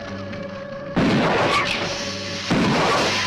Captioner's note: gun firing; lizard hissing